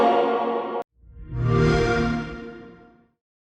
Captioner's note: xbox sound